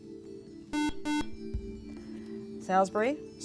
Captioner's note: buzzer